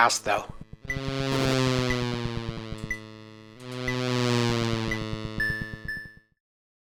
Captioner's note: buzzing engine roar